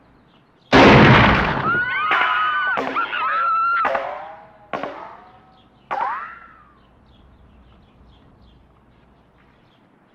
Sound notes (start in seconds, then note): 0.7 gunshot and screaming; 3.2 bullet ricocheting